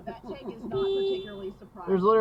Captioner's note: beeep